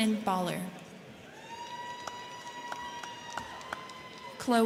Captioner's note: crowd cheering; crowd clapping